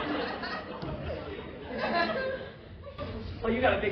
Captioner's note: laughter